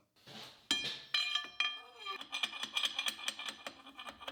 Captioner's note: rod clanging